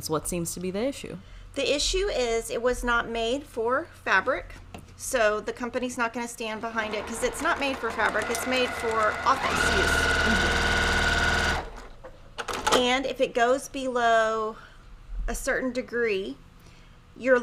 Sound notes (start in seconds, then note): 10.9 machine whirring